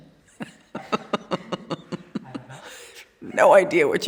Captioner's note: laughing